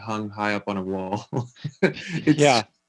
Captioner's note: laughing